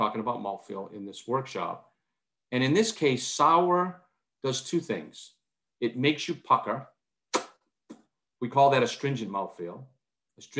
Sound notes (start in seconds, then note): 7.3 lips smacking